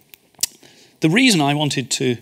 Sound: smacks lips

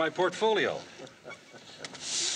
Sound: chuckles

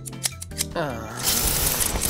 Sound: groaning

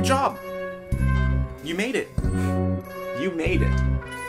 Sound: scoff

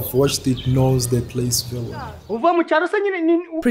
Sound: speech in different language

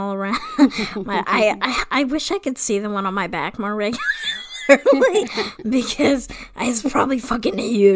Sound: wheeze laughs

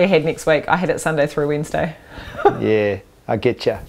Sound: chuckling

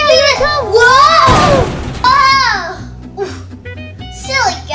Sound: loud crash

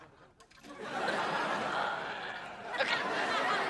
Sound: audience laughing

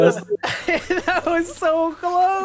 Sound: laughs

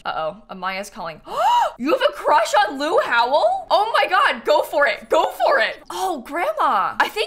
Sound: gasps

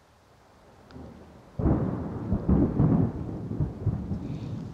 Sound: thunder rolls

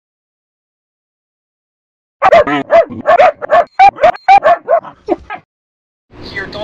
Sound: barks

